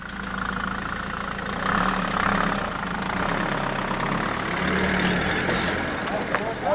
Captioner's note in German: Motorgeräusche